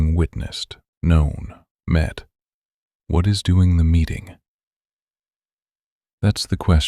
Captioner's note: pause